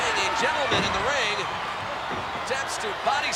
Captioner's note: knee thudding